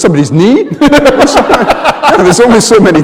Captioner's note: laughter